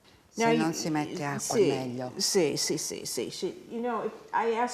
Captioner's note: speaking Italian